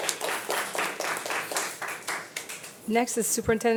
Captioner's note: audience applauding